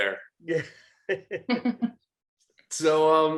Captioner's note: group laughing